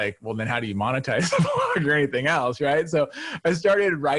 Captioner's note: chuckles